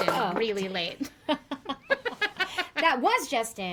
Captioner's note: both laugh